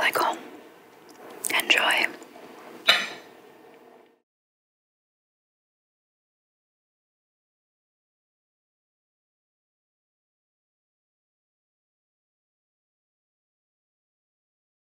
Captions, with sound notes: Tastes like home. Enjoy. (fork clinking)